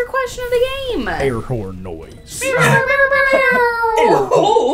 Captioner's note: air horn sound effect